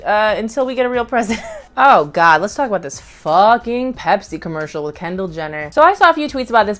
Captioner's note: laughs